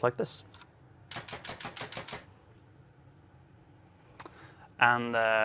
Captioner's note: gunshots